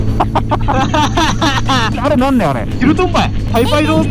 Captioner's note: hakata dialect